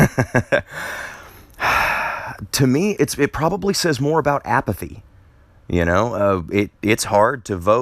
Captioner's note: laughter